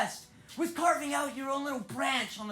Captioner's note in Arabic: none